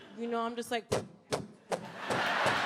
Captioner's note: bumping sounds; audience applauds